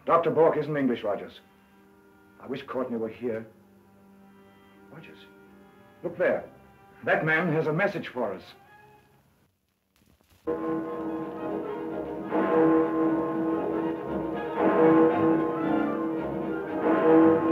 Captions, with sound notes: - Dr. Bork isn't English, Rogers. I wish Courtney were here. Rogers, look there. That man has a message for us. (clock chiming) (playful music)